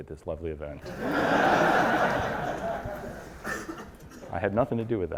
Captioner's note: audience laughs